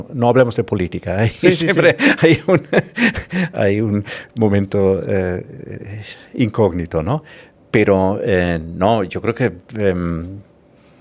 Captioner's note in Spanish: risas